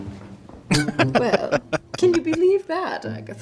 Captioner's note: laughing